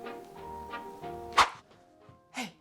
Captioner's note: woosh